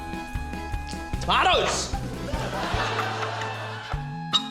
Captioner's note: laughter